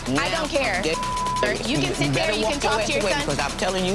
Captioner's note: beep